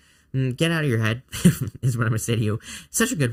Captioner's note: chuckling